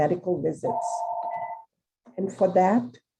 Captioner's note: telephone rings